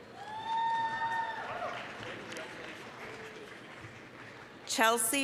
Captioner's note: applause, cheering